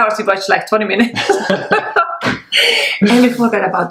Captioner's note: laughs